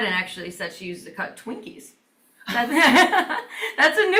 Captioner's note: laughs